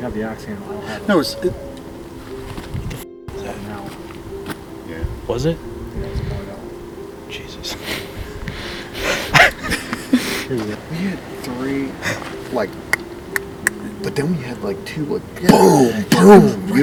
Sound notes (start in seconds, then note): 7.6 all laughing; 12.6 imitating knocking